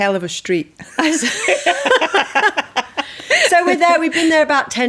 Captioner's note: laughing